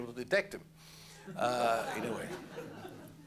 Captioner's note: laughter